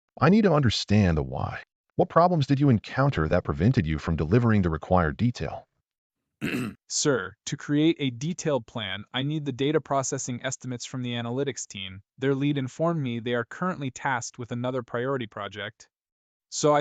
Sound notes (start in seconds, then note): 6.4 clears throat